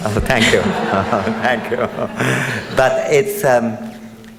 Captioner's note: audience laughs